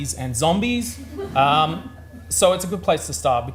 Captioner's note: audience laughs